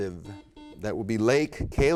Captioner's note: buzzer beep